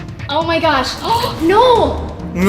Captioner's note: gasps